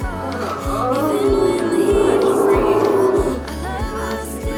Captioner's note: moaning